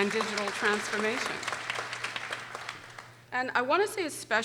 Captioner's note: people applauding